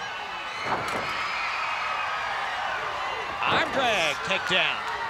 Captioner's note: crowd cheers